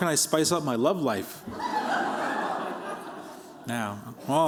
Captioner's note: laughter